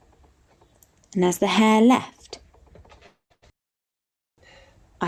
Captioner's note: sound cuts out